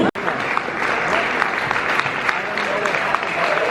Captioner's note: applause